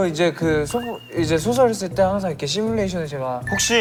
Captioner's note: rambling nonsense